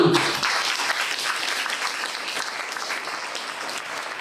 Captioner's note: applause